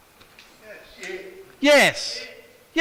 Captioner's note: responses from the audience